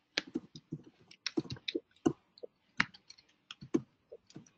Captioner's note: keyboard tapping